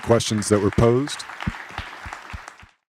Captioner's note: applause